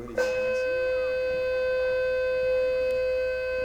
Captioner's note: droned beeping